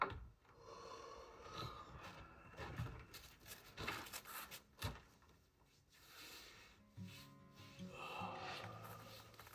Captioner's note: knocking; sighs; somber music